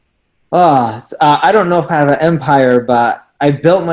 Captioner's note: sighs